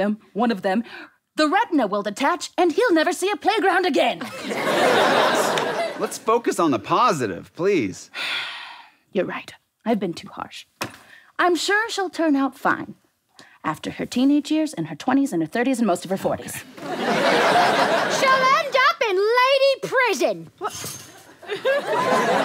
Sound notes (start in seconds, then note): 4.3 audience laughter; 16.8 audience laughter